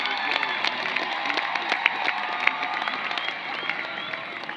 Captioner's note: cheering and applause